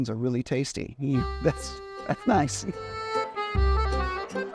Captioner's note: laughs warmly